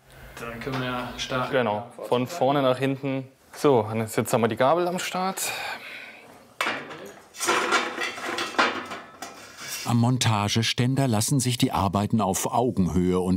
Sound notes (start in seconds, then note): 6.6 clanking, clattering